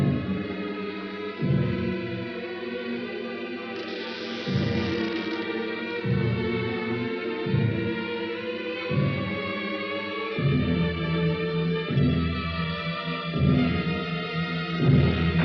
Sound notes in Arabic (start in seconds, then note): 3.8 تُغلق النافذة وتُصدر صريرًا; 8.3 موسيقى مُشوقة